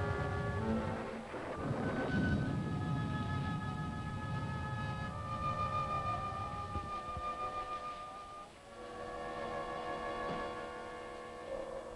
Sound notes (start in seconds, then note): 1.6 pensive music; 1.6 thunder rumbling